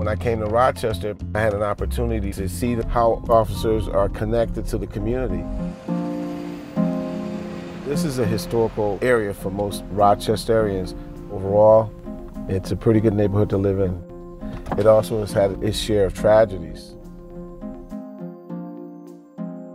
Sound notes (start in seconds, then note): 6.3 car engine runs